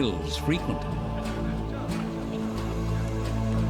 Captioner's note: men chanting